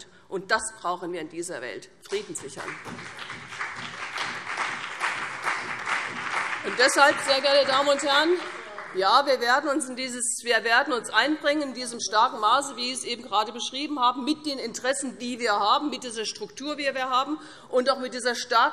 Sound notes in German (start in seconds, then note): 2.0 Beifall CDU, BÜNDNIS 90/DIE GRÜNEN und vereinzelt SPD